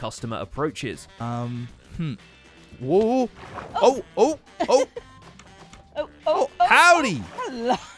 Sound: laughs

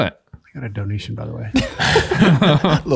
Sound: all laughing

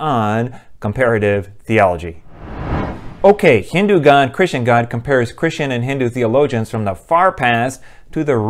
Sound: swoosh

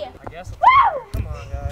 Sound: cheering

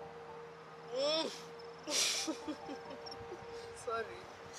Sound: laughter

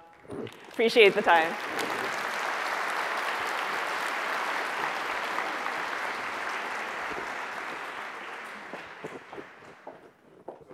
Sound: applause

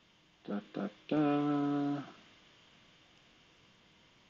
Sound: humming

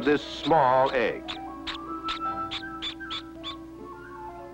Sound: chick chirping

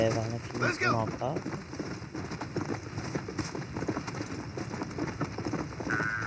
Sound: horse galloping

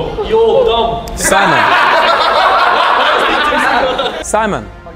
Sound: group laughs

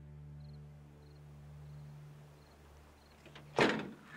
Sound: crickets chirping

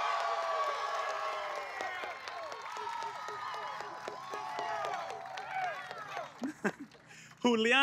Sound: applause

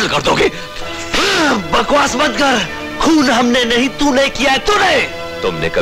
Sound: slaps

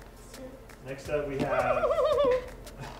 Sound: giggling; sneezing

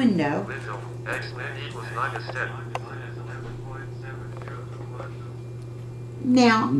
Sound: calculator voices

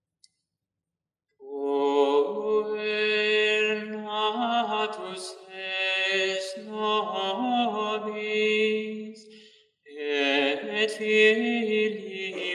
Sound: chant

